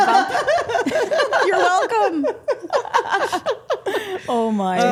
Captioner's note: group laughing